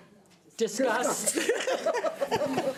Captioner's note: laughing